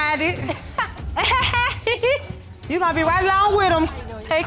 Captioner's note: laughs; laughs sarcastically